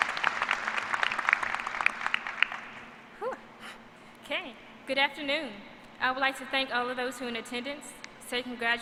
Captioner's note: applause